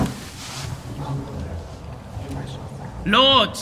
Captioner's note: voices murmuring